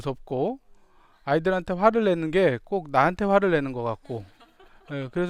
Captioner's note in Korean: 웃음